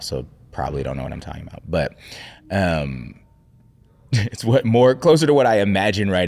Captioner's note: chuckling